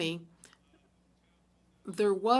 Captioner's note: speaking french